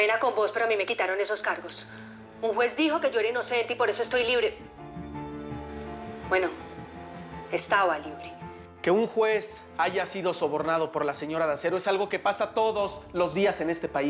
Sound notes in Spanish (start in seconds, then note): none